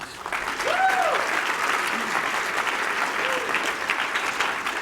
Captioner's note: applause